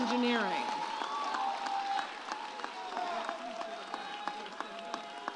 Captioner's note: audience cheers